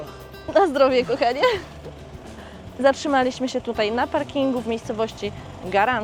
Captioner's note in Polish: śmiech